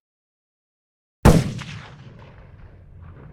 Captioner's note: shots fired